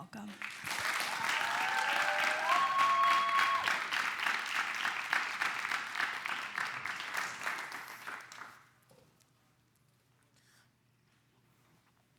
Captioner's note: clapping